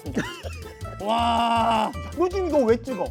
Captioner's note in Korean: 감탄